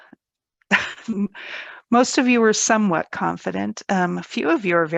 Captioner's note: chuckles